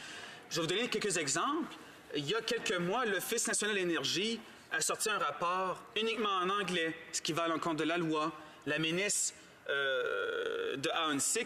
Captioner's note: speaking in french